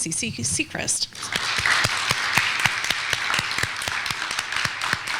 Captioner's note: clapping